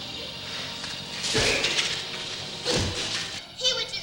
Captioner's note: fists smashing